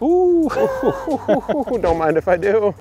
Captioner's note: both laugh